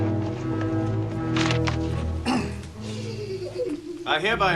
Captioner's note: official pulls out papers and clears his throat